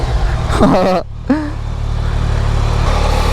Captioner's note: joyful laugh